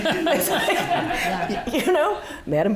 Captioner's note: audience laughing